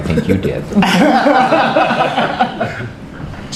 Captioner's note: laughter